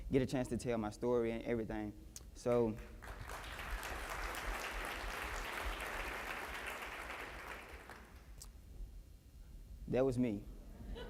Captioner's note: applause